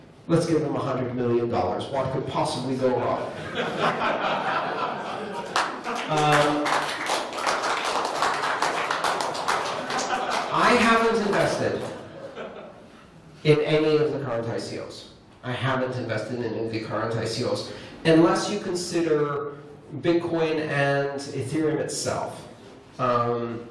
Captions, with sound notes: Let's give 'em a hundred million dollars. What could possibly go wrong? (Laughter) (Applause) I haven't invested in any of the current ICOs. I haven't invested in any of the current ICOs. Unless you consider bitcoin and ethereum itself.